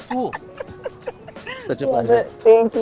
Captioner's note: laughs